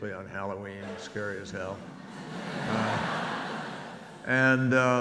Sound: audience laughs

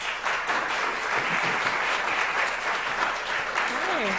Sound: applause

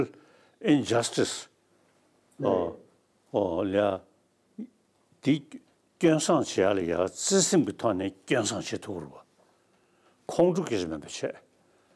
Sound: speaking in Tibetan

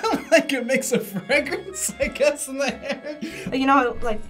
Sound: laughs

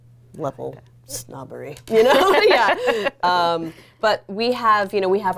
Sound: both laughing

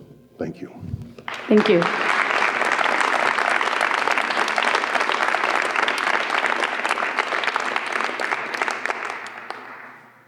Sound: applause

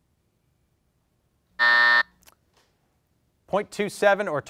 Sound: buzzer sounds

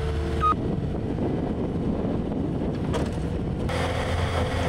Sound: wind blowing

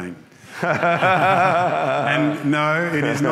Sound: both laughing

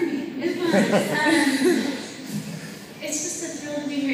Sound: laughter

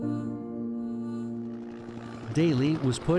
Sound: helicopter whirring

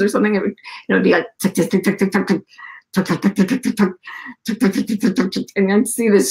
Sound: making typing sounds

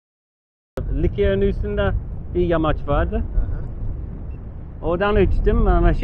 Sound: speaks in foreign language

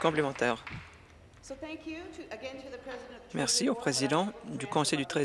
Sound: applause

